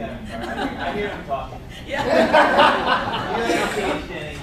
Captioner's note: laugh